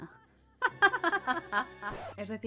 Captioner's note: evilish laughter